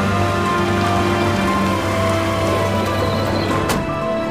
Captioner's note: the sound of an ambulance